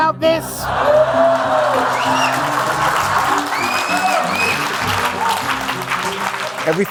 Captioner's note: audience laughing; audience applauding